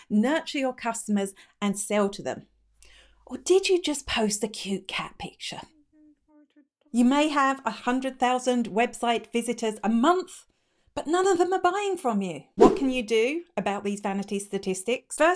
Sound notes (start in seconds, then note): 12.6 air whooshing